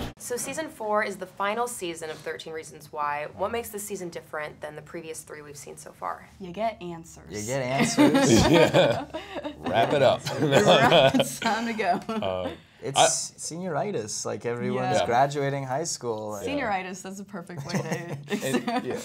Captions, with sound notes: - So season four is the final season of 13 Reasons Why. What makes this season different than the previous three we've seen so far? - You get answers. - You get answers. (chuckling) - Yeah. Wrap it up. (laughing) - Wrap, it's time to go. - It's senioritis. Like everyone's graduating high school. - Senioritis is a perfect way to...